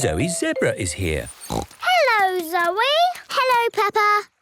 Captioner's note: snorts